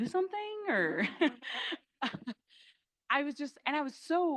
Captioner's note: crowd laughing